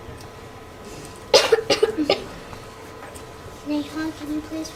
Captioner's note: student coughs